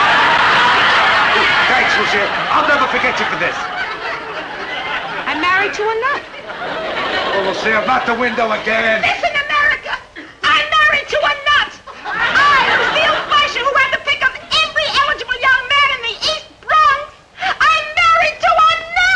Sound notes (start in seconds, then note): 2.4 audience laughing; 11.8 audience chuckling